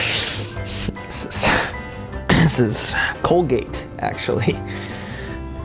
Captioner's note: grunts